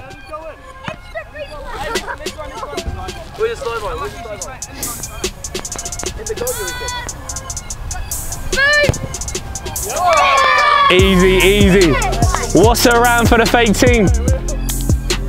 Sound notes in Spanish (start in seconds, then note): 0.3 música lenta de hip hop; 10.0 vítores de la multitud